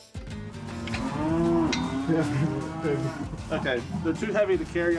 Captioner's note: cows mooing